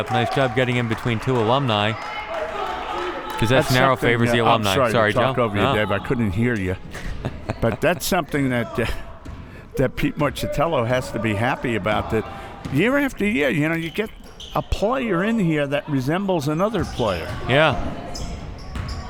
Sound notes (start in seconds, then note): 6.9 laughs